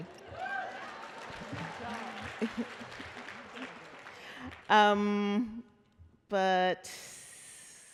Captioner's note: applause